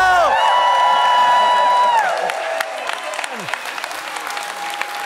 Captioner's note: audience cheers and applauds